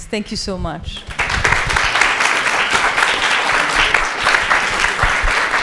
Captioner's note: audience applauds